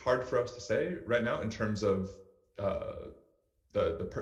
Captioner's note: speaks faintly